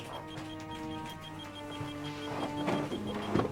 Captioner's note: beeping